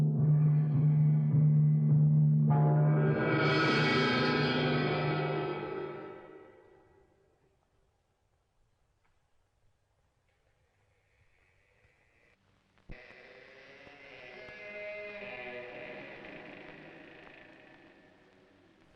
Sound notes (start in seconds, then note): 12.2 door creaking